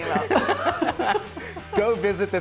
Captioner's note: both laugh